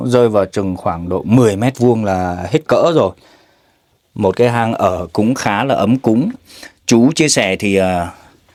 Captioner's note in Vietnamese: khịt mũi